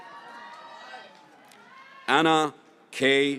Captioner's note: graduates cheering